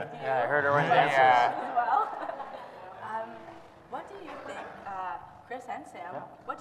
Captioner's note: audience laughs